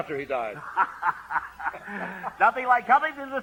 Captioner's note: laughing